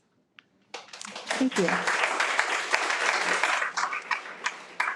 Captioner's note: audience applauding